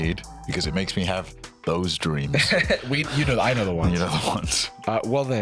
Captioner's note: laughs